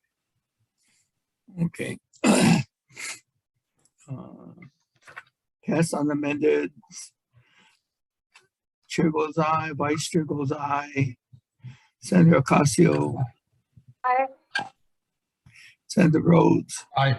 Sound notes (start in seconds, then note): 2.2 clears throat